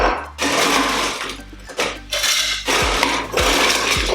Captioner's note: ice rattling